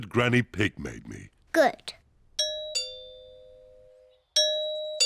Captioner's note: doorbell rings